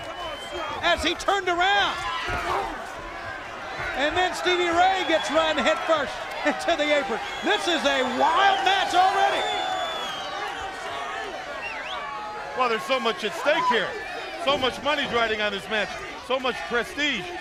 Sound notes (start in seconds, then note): 10.1 crowd chatter